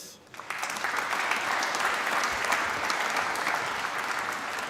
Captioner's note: applause